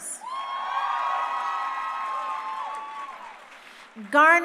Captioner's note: crowd cheering